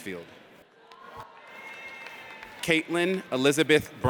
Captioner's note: audience cheers